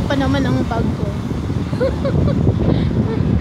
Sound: laughing

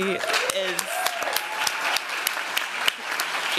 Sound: applause

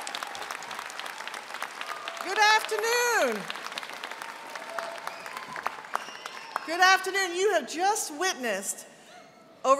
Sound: applause

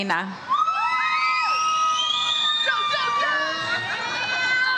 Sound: audience cheers

